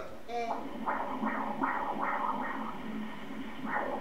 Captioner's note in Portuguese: som do coração